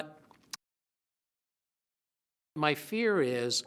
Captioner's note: silence